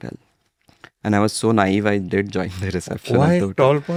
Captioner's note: laughs